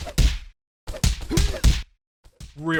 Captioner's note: kicking sounds; more kicking sounds